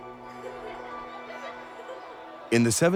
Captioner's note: children laughing